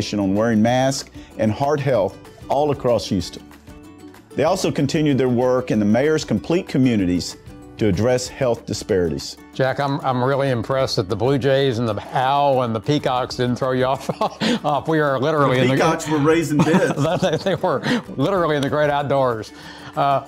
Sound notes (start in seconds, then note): 14.0 laughs